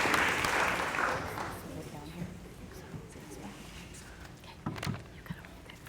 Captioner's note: applause; whispering